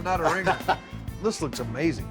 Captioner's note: laughs